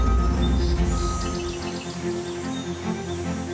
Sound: sound of heavy machinery and truck backing up; birds chirping with sound of truck backing up; nature sounds

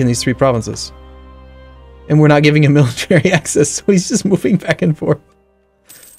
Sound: chuckling

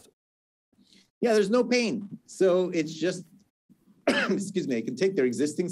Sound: coughs

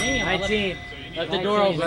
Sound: chime

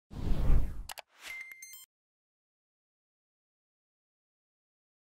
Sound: logo whooshing and clicking

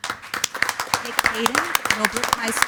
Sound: board members and attendees applaud

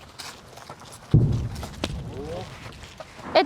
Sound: explosion sound

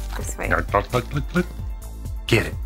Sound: glugging sounds

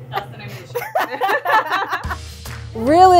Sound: laughing

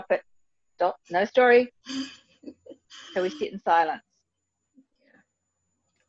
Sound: laughs

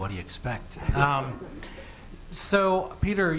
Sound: laughter

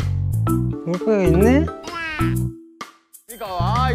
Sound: cute voice

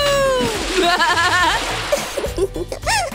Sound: laughs

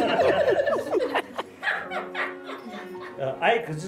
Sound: laughter

